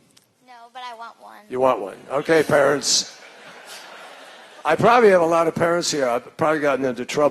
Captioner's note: laughter